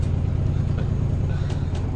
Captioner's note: chuckles